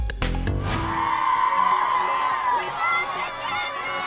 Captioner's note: crowd cheering